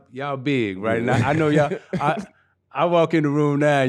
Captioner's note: laughing